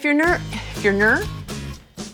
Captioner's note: sighs